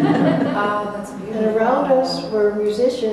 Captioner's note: Arabic; Vietnamese